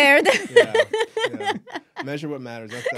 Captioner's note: laughs loudly